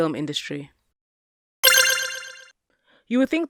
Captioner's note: game noise beeps